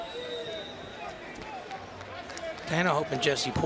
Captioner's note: crowd clapping and cheering